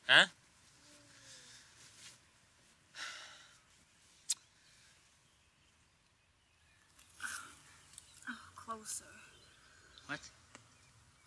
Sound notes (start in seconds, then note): none